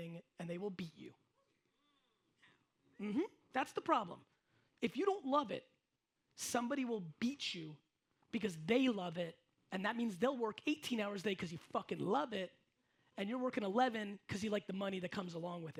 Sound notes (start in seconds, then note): none